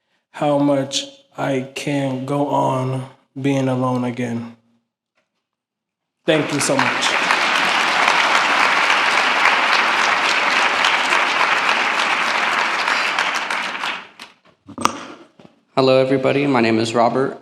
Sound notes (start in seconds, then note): 6.2 applause